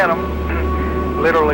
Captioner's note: clears throat